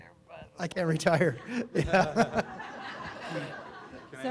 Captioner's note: crowd laughs loudly